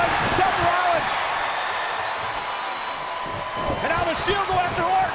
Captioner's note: audience cheers